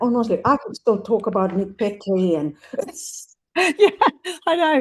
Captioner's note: laughs